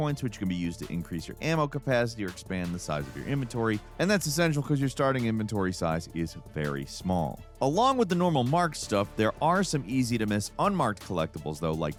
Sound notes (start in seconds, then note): none